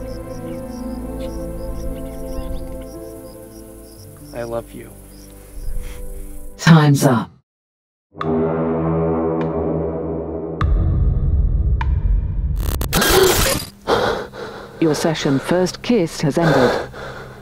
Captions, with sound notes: - I love you. - (robotic voice) Time's up. (dramatic music) Your session, First Kiss, has ended.